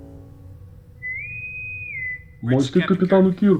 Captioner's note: intercom whistles